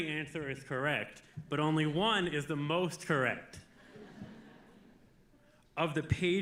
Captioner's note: audience laughing